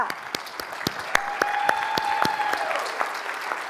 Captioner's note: audience applauds